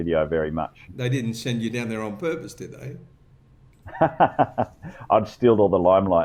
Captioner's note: laughter